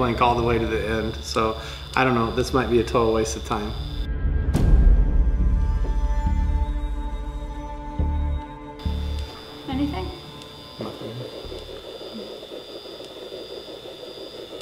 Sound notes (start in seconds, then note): 5.2 tense music; 8.8 tape machine whirring; 11.1 noises on tape